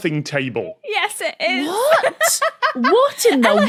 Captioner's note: laughs